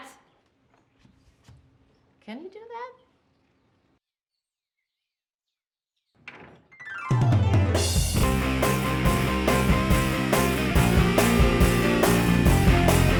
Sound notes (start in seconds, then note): 6.2 door closing; 7.1 upbeat music